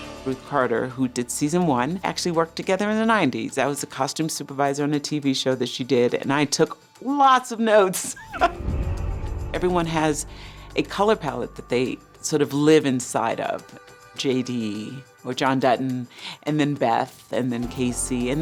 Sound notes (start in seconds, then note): 8.0 laughs